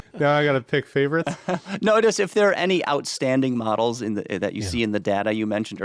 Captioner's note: laughs